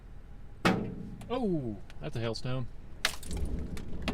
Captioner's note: thunk; more hail, thunder